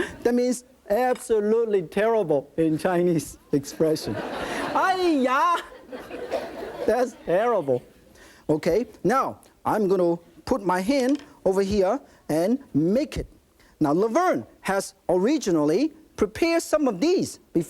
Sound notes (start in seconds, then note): 0.0 audience laughing; 4.0 audience laughing; 4.2 speaking in foreign language